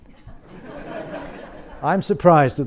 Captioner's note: audience laughs